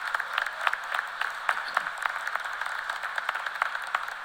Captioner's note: cheers and applause